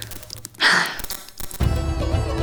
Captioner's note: Mila sighs; lively orchestral music